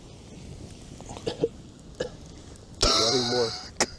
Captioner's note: coughs; laughs